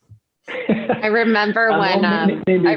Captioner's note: laughs